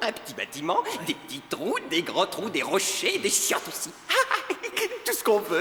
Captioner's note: laughter